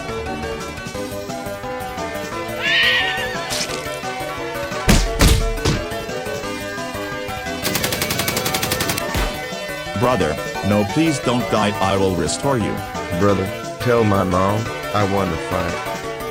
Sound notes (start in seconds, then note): 2.4 neigh; 7.6 gun Shooting